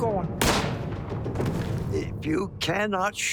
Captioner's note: gunshot